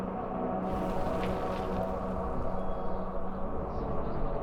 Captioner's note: wind rustling